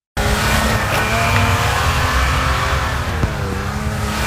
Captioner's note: tires spinning